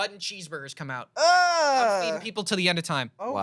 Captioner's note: groans